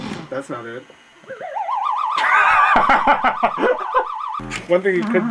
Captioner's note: sound of a dirtbike starting; sound of a video game ghost; laughs